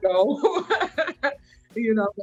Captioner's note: laughing